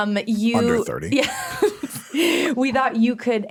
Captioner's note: laughs